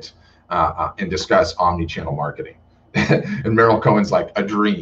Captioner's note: laughs